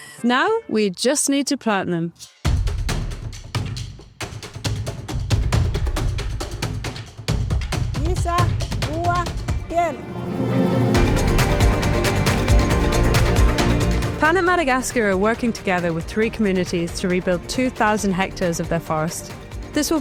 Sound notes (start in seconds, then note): 2.7 rhythmic music; 8.1 speaking in foreign language; 11.3 inspirational music